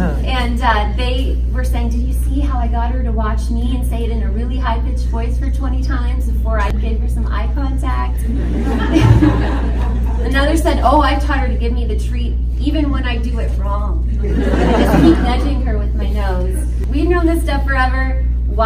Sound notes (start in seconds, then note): 8.1 audience laughs; 14.1 audience laughs